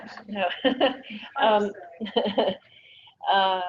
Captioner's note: laughs